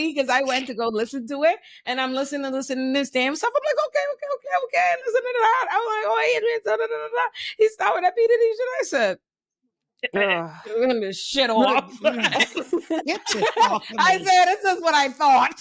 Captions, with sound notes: because I went to go listen to it and I'm listening to this damn stuff. I'm like, okay, okay, okay, okay. Listen to that. I'm like, oh, he's been telling me to tell me to tell me. He's telling me to do these. And I said, I'm gonna miss shit all of it. (laughing) I said, this is what I thought.